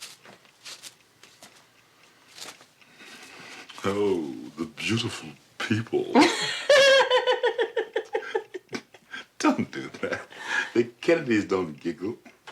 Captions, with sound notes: - Oh, the beautiful people. [laughs] Don't do that. The Kennedys don't giggle.